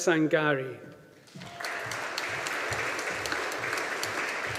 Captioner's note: audience applauding